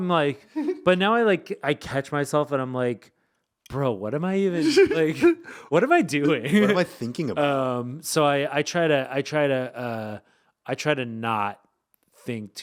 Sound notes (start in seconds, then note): 0.6 laughing; 4.6 laughing